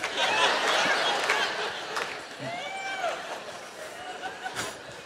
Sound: laughter

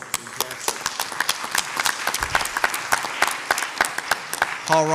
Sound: audience applauds

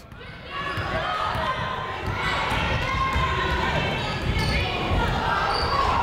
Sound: people shouting in the crowd

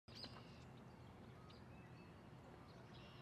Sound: birds chirping

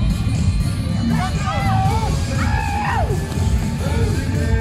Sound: cowboy noises

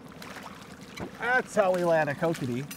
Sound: boat engine idling; fish splashing

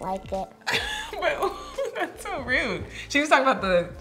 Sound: laughing

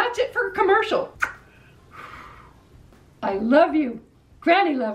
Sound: kiss

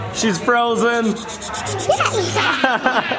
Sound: laughing

